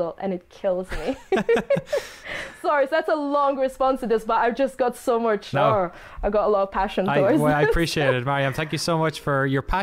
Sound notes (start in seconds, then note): 0.9 laughter; 7.2 laughs